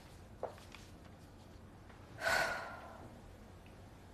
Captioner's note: exhaling sharply